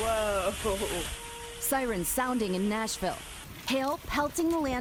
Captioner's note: sirens